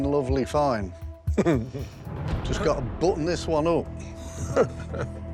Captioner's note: laughter